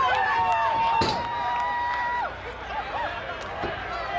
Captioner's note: audience cheers